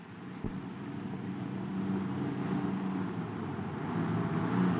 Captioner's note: car engine roaring